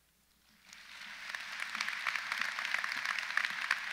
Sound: audience applauds

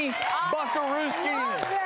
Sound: cheers and applause

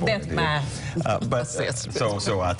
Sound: laughter

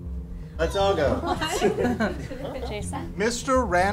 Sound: voiceover

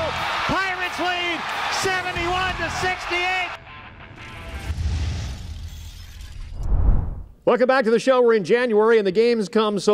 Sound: cheers and applause

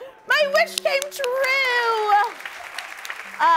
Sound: applause

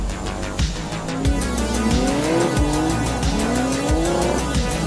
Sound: engines roaring

